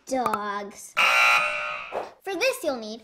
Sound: buzzer noise

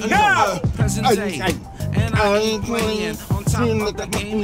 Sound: Jordan mumbling

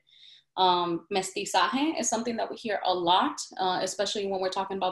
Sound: speaks in Spanish

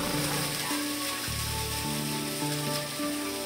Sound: mushrooms sizzling

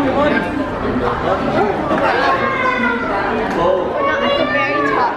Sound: excited exclamations

